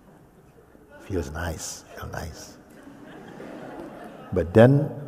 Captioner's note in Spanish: risas